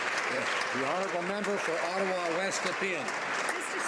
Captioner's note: some Applause